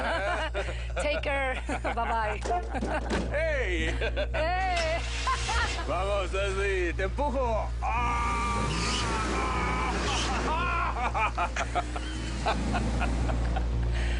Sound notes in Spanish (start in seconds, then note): 0.0 Risas; 3.8 Exclamaciones; 9.6 Ruido del vehículo; 10.0 Risas